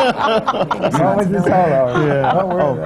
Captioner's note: laughter